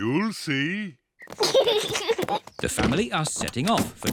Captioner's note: oinks; kids giggle